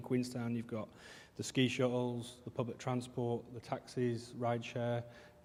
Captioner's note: none